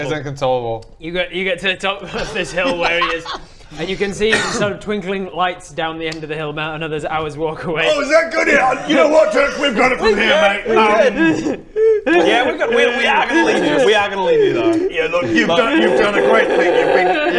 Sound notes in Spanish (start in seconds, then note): 11.5 Dirk comienza a llorar de nuevo